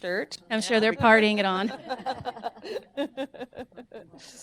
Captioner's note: group laughing